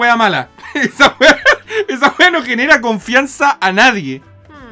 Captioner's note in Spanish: risas